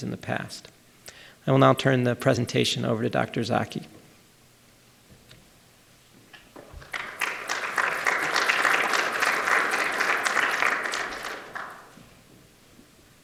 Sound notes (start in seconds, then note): 6.6 applause